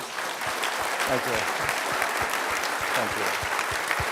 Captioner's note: applause